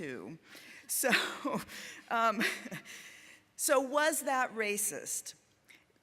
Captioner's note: laughing